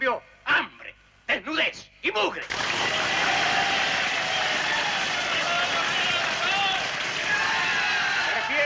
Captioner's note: applause